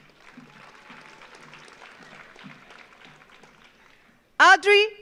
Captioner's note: audience applauds